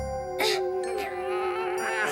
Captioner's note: grunts